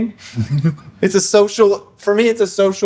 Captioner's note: laughter